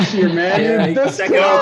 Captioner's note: laughter